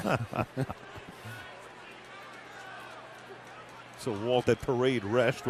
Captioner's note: laughter